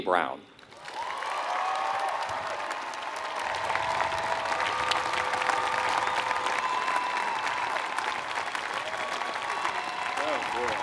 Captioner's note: applause